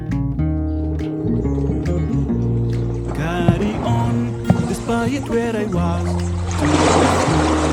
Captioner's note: boat motor and wave crashing